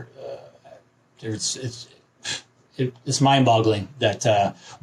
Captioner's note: sighs